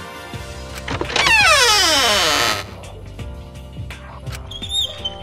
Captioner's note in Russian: Скрииип!; Скр, скрииип....скр, скрииип